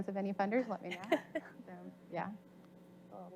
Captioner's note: faint voice